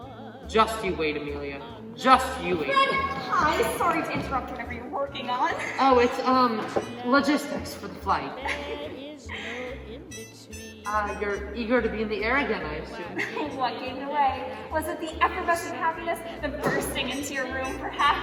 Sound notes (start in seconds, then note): 8.3 chuckles